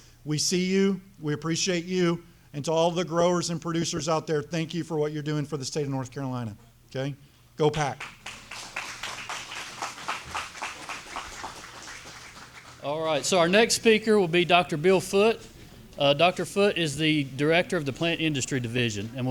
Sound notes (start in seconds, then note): 8.0 audience applauding